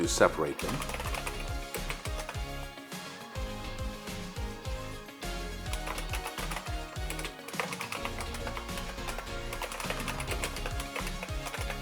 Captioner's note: IBM Model M clicky keyboard typing